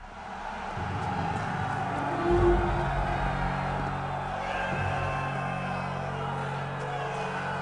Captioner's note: crowd jeers